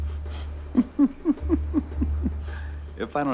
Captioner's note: chuckles